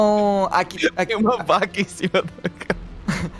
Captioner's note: laugh